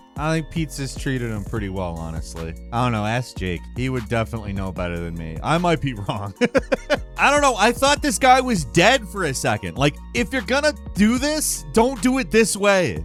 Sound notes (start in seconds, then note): 6.3 laughs